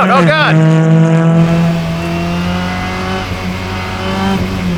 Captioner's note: engine noise